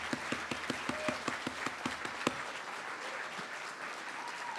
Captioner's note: applause